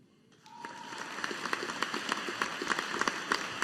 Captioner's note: audience applauding